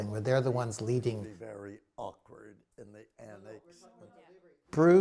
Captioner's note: chattering